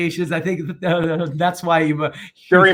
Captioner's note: murmurs